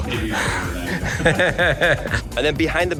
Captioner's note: laughter